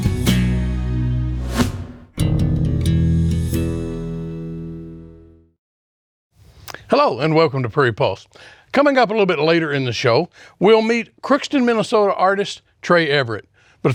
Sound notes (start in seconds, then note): 1.4 transition whooshing; 3.5 lively upbeat music fades